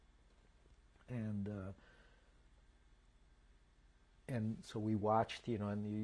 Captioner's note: pauses for 3 seconds